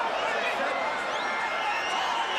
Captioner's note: crowd cheering; crowd chatter